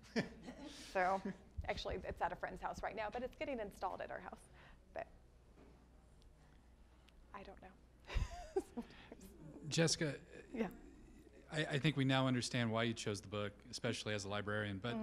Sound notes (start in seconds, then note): 0.0 man laughing; 8.1 laughs